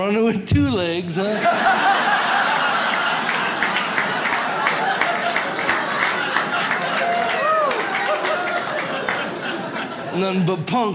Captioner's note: audience laughs